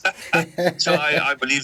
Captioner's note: laughs